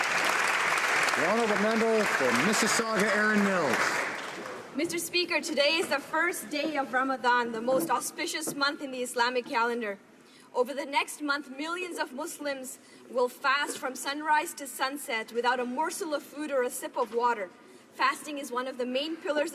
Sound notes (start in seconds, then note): 2.6 applause